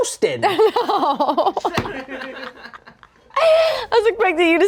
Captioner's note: laughs